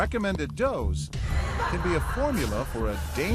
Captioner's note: laughing